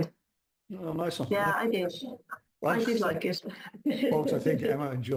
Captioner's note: laughs